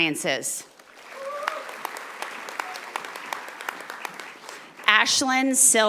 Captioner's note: audience applauding